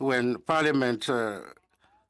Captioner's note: speaking in French